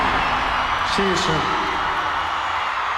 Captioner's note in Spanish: en inglés